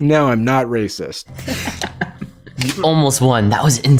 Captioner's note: Martin laughing